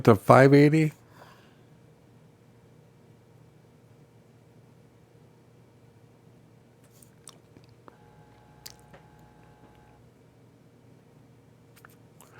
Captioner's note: silence